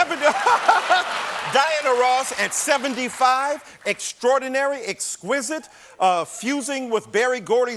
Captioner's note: laughter